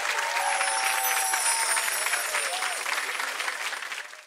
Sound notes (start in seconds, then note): 0.2 chimes